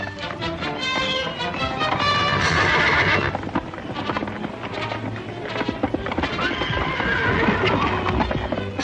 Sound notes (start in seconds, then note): 2.0 horses neighing